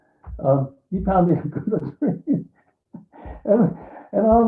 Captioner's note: laughing